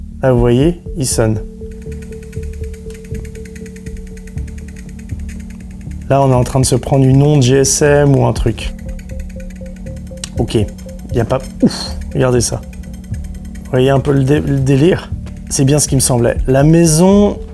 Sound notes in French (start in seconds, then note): 1.8 Bruit d'ondes